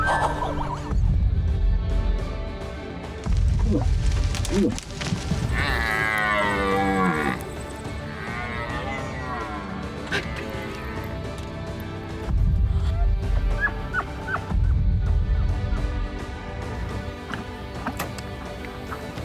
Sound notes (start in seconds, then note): 0.0 breathy laughs; 3.9 moose grunts; 5.8 deer bellows; 7.7 upbeat music continues; 10.0 breathy laughs; 12.7 elk bugles; 15.7 upbeat music continues